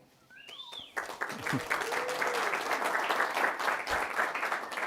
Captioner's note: audience applauds